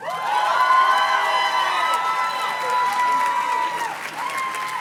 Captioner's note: audience cheers and claps